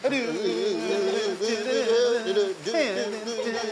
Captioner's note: humming; giggling